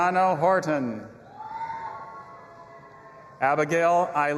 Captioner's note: audience applauding and cheering